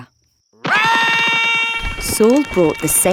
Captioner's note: Saul screaming